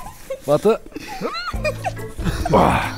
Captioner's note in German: Ächzen, Kichern